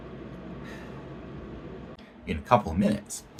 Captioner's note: deep sigh